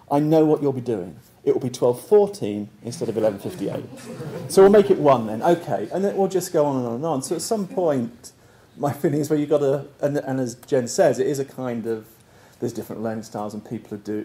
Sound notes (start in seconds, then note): 2.8 laugh